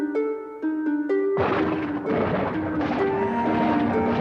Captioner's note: guntur menggelegar